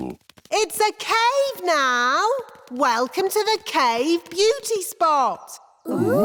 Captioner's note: echoing